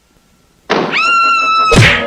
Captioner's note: door Opens & then Closes; Sweet Polly Screams; smack!